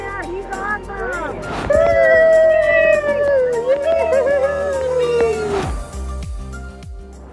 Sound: cheering

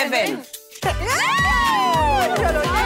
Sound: shouts; cheering

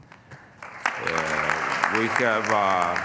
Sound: applause

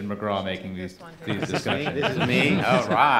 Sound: laughing

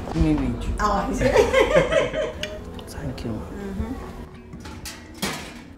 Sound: laughs

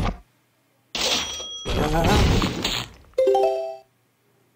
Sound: cash register sound

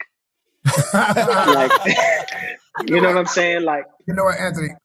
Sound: all laughing

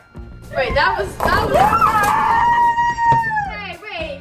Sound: screaming

